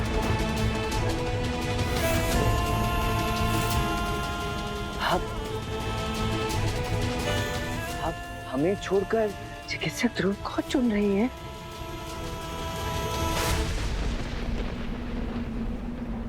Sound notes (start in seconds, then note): 1.9 poignant vocalisation